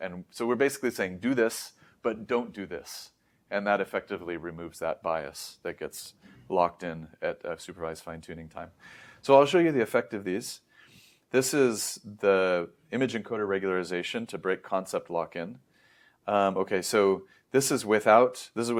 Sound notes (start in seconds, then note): 8.8 inhales; 10.9 sniffs